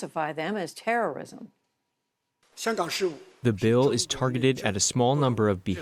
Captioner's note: through translator